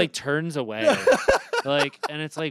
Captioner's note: Anthony laughs